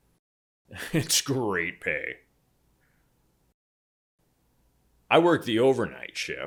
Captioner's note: laughs